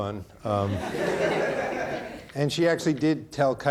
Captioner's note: audience laughing